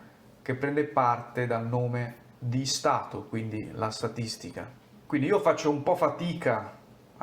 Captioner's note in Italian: in italiano